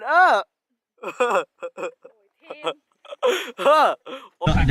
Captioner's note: more laughing